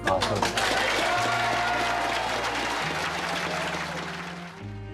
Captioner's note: members cheering